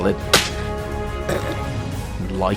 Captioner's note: snigger